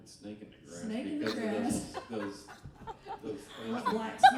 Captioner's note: laughing